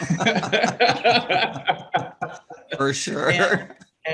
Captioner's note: everyone laughs